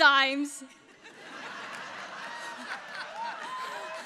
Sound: all laughing

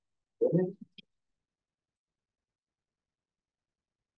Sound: audio distorting

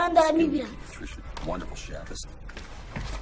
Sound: TV noises

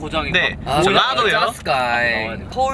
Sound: in Jeolla dialect

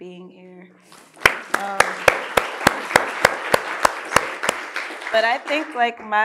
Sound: audience applauding

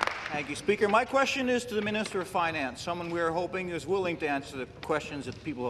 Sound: applause

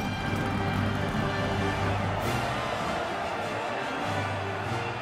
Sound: crowd cheering

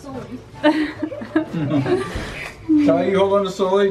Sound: laughs

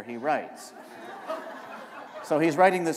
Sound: laughter

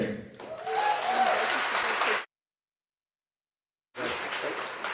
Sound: audience applauding

